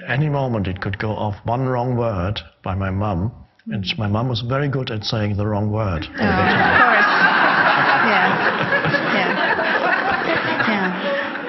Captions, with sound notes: Any moment it could go off, one wrong word, by my mom. My mom was very good at saying the wrong word all the time. (audience laughs) (man laughs)